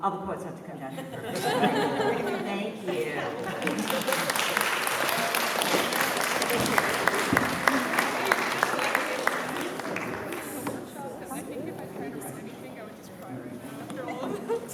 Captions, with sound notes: All the poets have to come down here. Perfect. [LAUGHTER] Thank you. [APPLAUSE] [CHATTER]